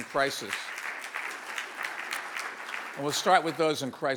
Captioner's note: audience applauds